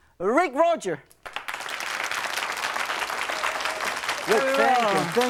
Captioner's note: crowd applauds